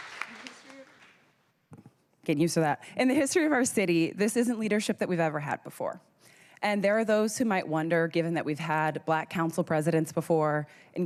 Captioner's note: cheers and applause